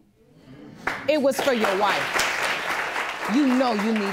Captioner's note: audience applauding